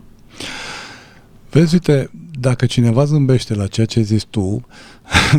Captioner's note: sigh